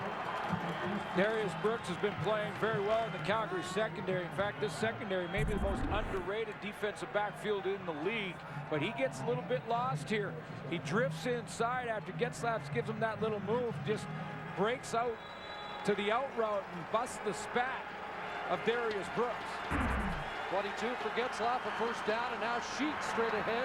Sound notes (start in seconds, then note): 14.1 crowd cheering